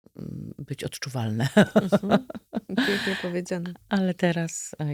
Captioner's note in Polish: śmiech